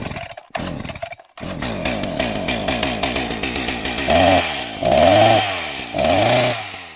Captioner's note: more chainsaw noises